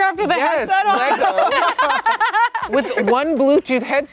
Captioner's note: everyone laughing